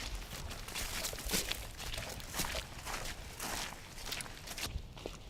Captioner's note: footsteps crunching